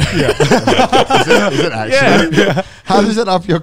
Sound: laughing

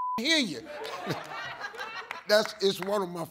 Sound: audience laughs

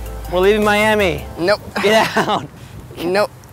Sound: laughs

